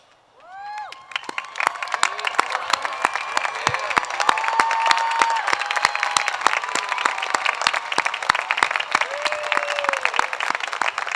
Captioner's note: applause